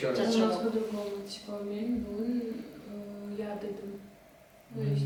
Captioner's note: speak Turkmen